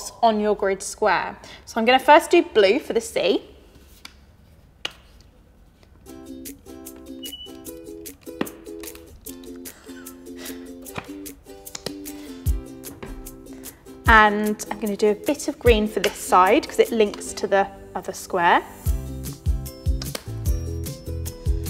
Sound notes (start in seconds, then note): 6.2 upbeat music; 9.6 laughs; 18.8 upbeat music